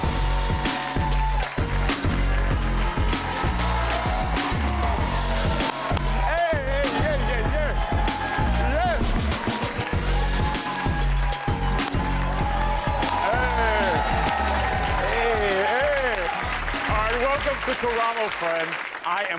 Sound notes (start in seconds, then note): 0.5 upbeat music; 1.7 crowd cheering